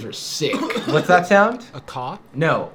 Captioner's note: coughing